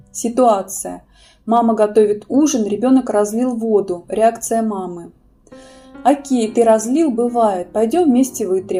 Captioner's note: inhale-exhale